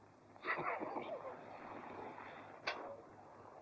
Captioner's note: laughing